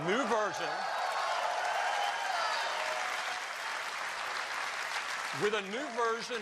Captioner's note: applause